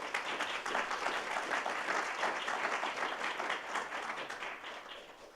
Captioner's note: audience applauding